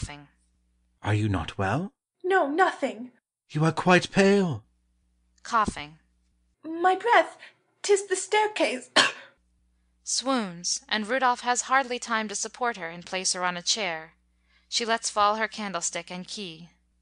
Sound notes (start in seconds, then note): 8.8 coughing